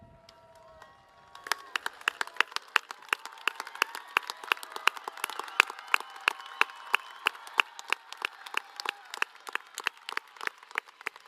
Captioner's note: applause